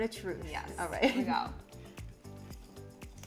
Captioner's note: chuckling